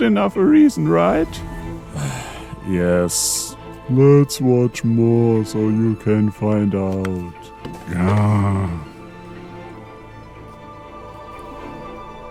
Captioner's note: sigh